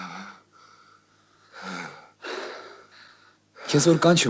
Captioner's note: huff-Puff